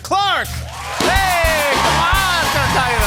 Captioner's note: cheers and applause